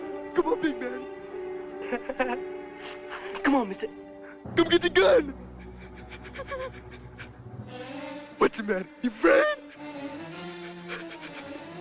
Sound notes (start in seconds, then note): 1.8 laugh; 4.5 laugh; 6.1 laugh - tense music